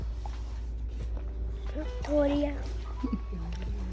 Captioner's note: gulps